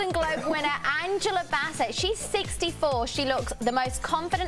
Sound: laughter

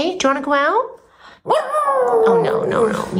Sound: howling

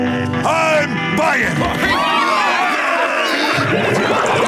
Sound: cheering

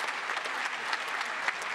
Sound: applause

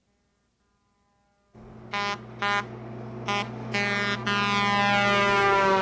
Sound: horn blowing

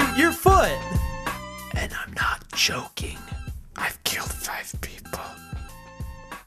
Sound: whispers

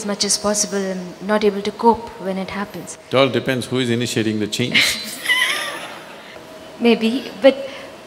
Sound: laughter

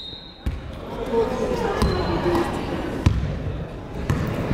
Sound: whistle blows

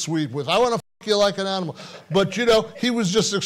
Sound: laughing

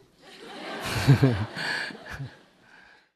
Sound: audience Laughter

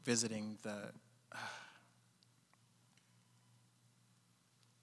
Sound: sighing

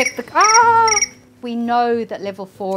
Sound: phone ringing

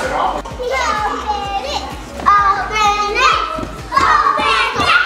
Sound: crowd

